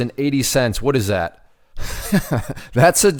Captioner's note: laughs